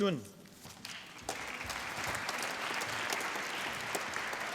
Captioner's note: applause